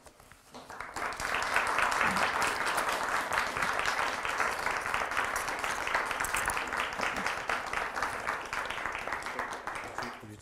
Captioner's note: audience applause